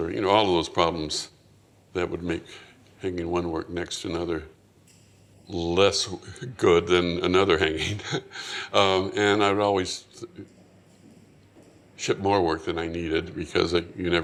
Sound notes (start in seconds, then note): 7.7 chuckles